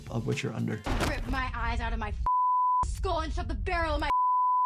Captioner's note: beep